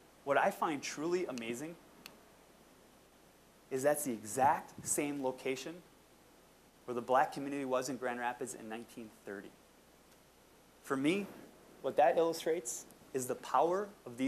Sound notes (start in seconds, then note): none